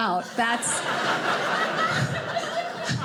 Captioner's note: audience laughing